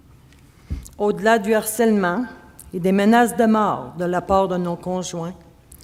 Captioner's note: speaking French